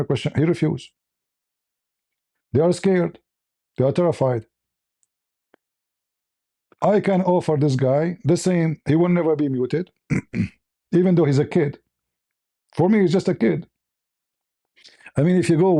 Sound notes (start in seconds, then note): 10.1 clears throat; 10.1 cough